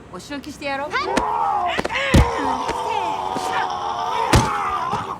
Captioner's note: groaning in pain